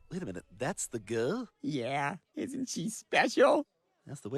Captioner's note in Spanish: none